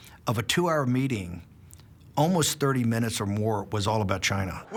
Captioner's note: none